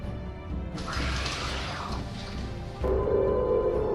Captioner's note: hanger doors closing